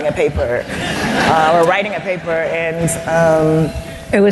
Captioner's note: laughter